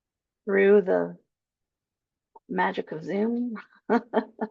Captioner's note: chuckles